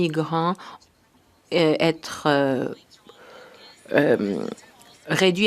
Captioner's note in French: voix de l'interprète